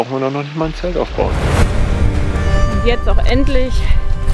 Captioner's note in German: none